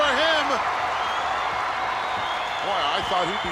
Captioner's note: audience applauding and cheering